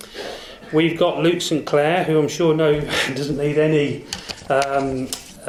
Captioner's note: laughs